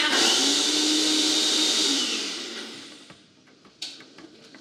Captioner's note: blender grinding